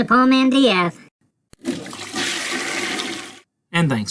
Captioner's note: flushing sound